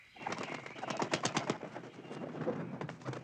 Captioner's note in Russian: хлопание крыльев